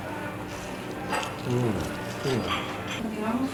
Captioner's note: continuous sounds of admiration